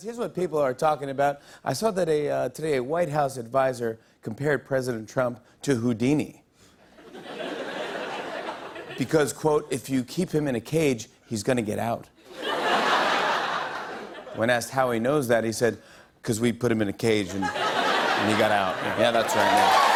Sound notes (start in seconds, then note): 6.9 laughter; 12.2 laughter